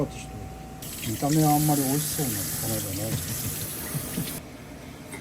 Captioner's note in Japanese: 苦笑